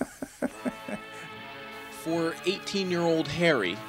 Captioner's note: laughs